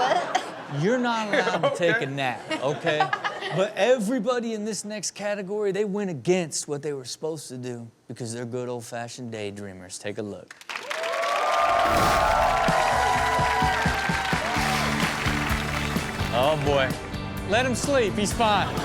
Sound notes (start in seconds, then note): 0.0 audience laughs; 10.7 audience cheers; 10.9 upbeat music